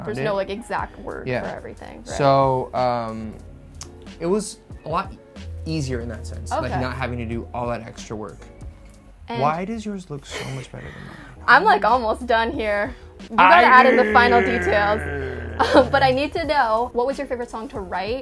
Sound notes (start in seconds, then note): 13.4 grumbles